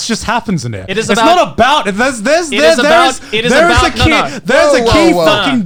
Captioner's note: both mumbling